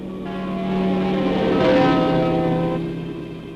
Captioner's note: horn honking